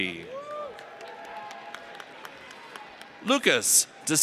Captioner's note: audience cheers